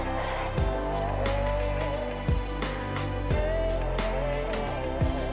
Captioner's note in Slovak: Potlesk